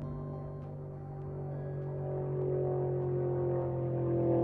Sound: car engine roars

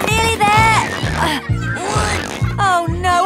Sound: grunting

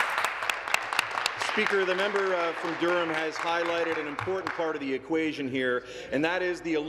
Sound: applause

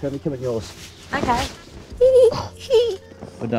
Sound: giggles

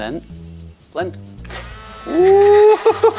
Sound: blender whirring

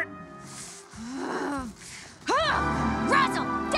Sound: Charlie groans

